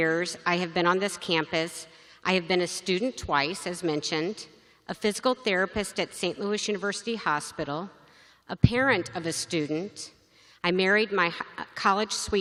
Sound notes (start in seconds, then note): none